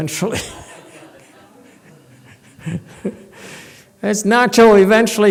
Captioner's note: laughs